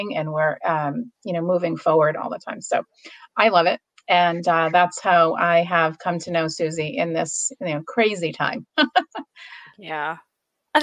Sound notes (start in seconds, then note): 8.2 laughs